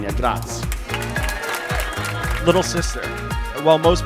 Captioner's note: clapping